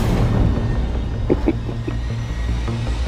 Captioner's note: chuckles